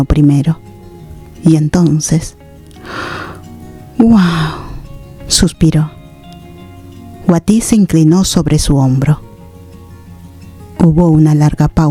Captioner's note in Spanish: resoplido